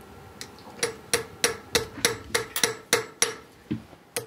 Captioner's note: repeated, bright, metallic hammering